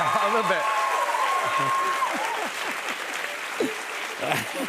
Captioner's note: cheers and applause